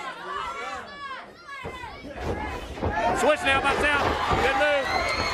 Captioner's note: crowd chatter